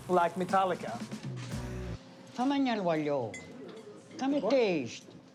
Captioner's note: speaks Italian